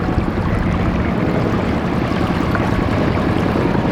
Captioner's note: water bubbling